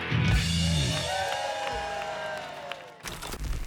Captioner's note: cheers and applause